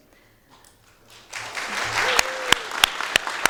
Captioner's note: audience applauding